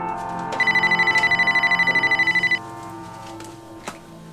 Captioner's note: phone ringing